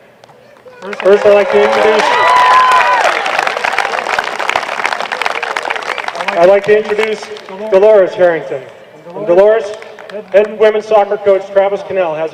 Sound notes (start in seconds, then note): 2.1 applause